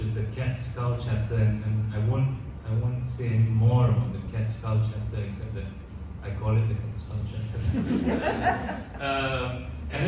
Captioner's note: audience laughs